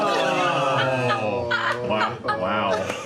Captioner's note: groaning